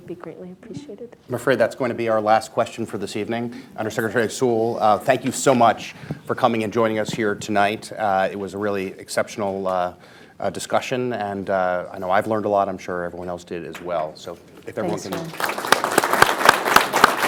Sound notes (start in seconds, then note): 14.8 applause